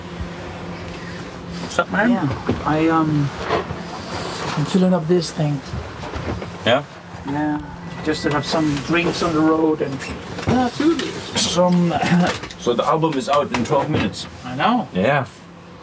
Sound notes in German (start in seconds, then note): 1.3 Sie sprechen englisch